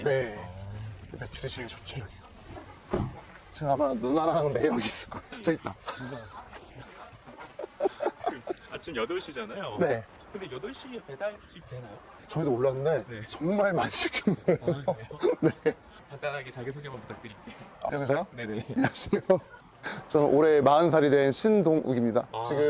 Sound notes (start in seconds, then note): 13.7 laughs